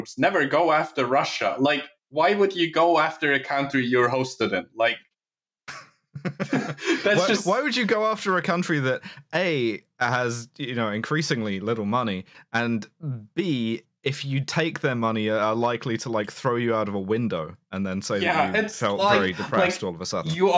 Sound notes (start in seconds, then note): 5.7 chuckles